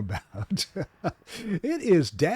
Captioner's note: laughs